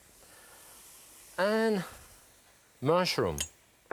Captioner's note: vegetables sizzling